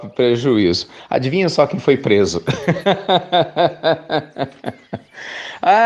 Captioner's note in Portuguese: Risos